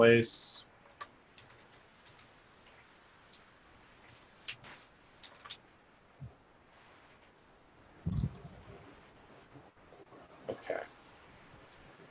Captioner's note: typing On Screen